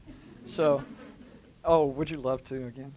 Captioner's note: laughter